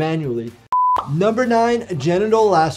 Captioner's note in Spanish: pantalla pitando